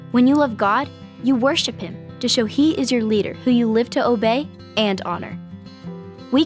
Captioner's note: none